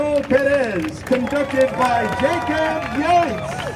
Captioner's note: crowd cheering